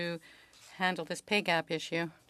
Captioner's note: speaking french